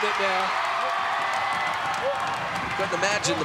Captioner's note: audience cheering